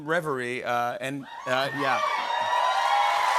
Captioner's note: cheers and applause